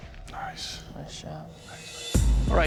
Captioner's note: whispering